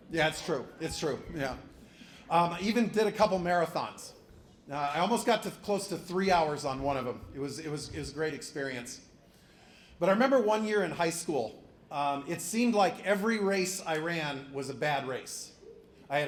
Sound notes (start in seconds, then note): none